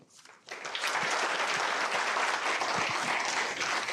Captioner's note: applause